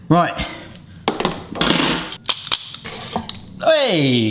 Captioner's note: equipment clatters